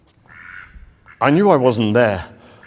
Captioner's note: duck quacking